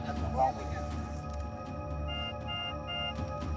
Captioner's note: beeping